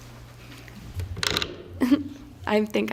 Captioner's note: microphone creak